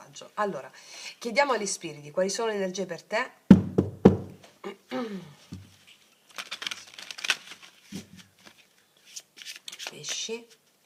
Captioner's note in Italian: schiarire la voce